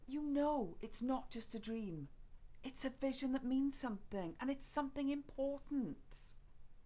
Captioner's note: none